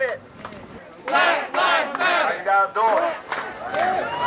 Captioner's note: crowd